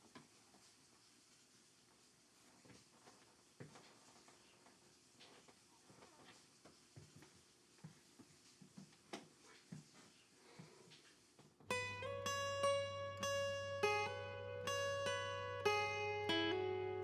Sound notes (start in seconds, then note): 3.8 footsteps tapping; 11.7 slow gentle bright music